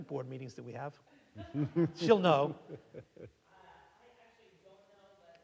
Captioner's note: audience laughing